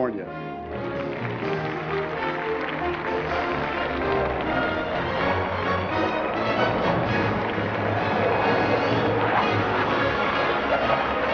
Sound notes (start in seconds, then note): 0.8 applause; 5.4 jet planes fly over